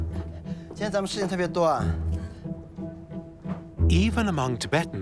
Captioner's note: in Tibetan